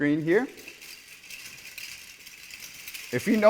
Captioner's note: dress clattering softly